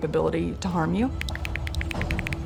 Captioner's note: typing